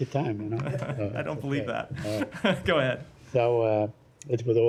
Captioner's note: laughter